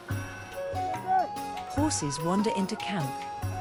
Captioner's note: horses bells ringing and horsemen shouting